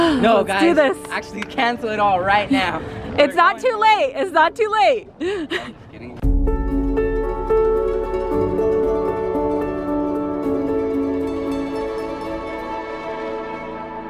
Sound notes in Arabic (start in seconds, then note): 5.1 تضحك; 6.2 موسيقى لطيفة